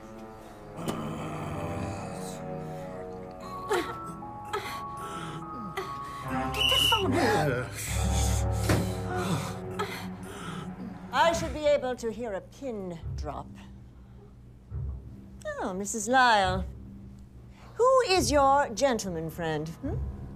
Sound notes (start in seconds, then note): 0.8 growls; 2.6 both grunting; 6.3 whistle blows; 9.2 gasps